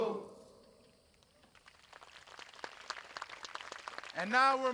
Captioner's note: audience applauding